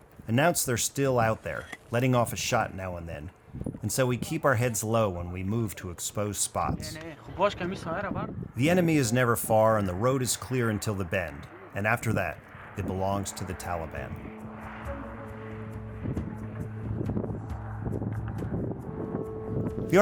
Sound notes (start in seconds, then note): 7.3 man speaking in a foreign language; 14.2 mellow Middle Eastern music